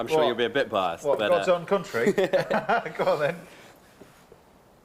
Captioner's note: laughs